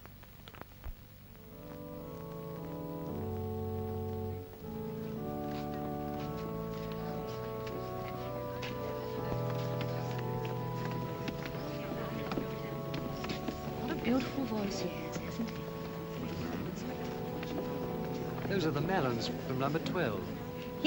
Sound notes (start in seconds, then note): 1.4 soft organ music; 10.9 soft chatter; 10.9 soft organ music; 16.9 soft organ music